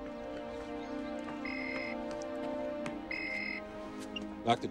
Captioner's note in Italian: cellulare squilla